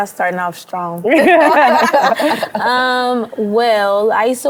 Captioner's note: everyone laughs